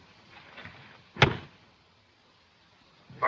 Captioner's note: silenced gunshot